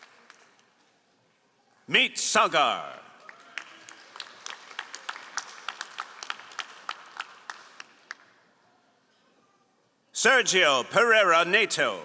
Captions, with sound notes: Meet Sagar. (all applauding) Sergio Pereira Nato.